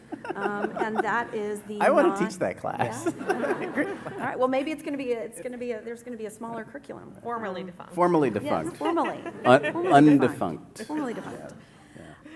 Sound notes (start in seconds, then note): 2.8 laughter